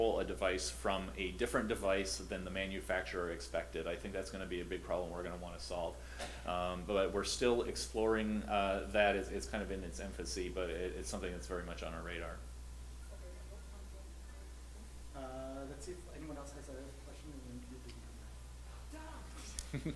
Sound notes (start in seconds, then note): 15.8 voiceover